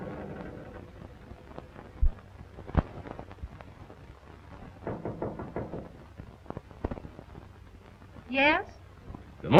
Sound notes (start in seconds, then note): 4.8 knocking